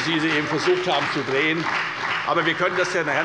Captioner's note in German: Beifall bei der FDP und der SPD